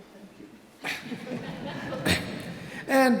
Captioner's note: audience laughs